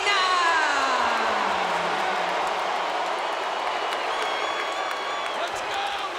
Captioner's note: crowd cheering